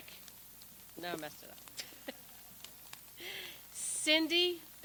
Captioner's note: laughs; people laugh